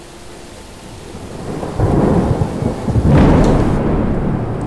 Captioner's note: storm raging